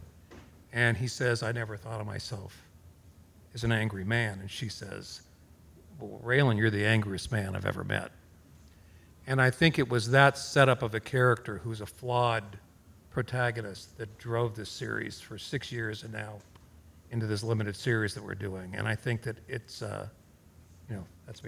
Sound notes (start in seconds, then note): none